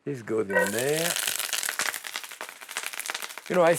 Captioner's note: sizzling and crackling